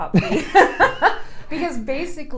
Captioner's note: laughs